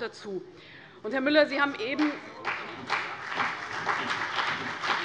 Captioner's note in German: Beifall CDU und BÜNDNIS 90/DIE GRÜNEN